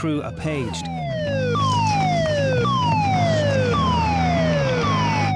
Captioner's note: alarm blaring; dramatic music